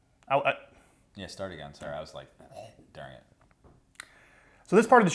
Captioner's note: gags